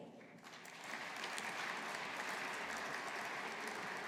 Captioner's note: audience applauding